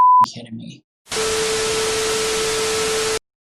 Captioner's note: beep